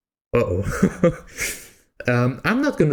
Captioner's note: chuckle